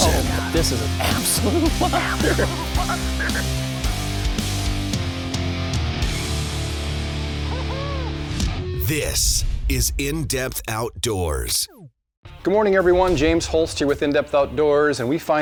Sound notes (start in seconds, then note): 0.0 voiceover; 9.2 voiceover